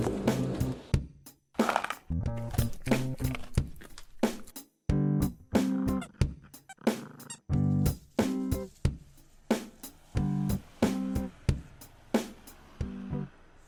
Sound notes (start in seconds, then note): none